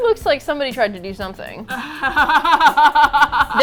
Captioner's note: laughs